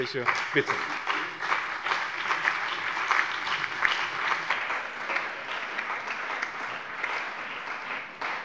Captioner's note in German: Beifall bei dem BÜNDNIS 90/DIE GRÜNEN, der CDU, der SPD und der LINKEN